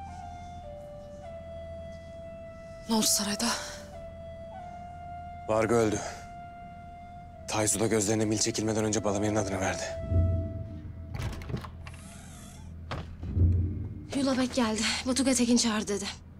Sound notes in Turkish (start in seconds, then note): 11.1 Kapı sesi